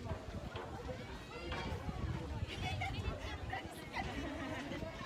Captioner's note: group chatter